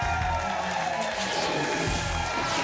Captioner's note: applause and cheering cont; static; whoosh